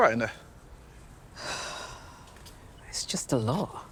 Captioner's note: Diane sighing